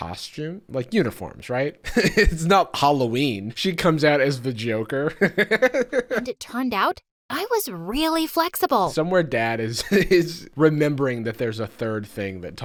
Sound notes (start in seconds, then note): 5.2 laughs